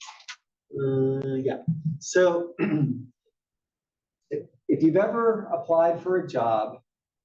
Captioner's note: cough